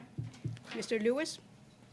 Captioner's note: speaking French